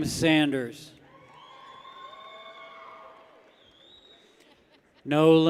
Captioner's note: people cheer